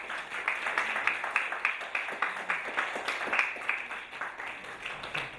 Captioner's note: audience applauding